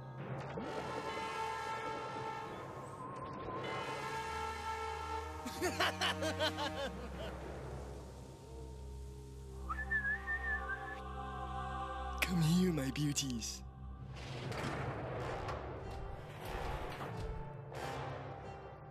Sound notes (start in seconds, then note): 5.4 laughs; 9.6 whistles